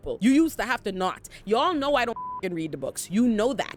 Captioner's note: beep